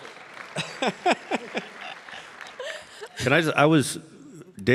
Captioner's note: audience applauding